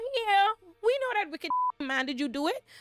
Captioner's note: beep